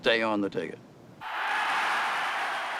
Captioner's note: crowd cheering